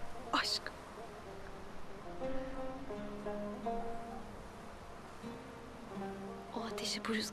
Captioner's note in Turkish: Rüzgâr sesi; Müzik - Duygusal